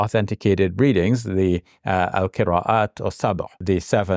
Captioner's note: speaks in Arabic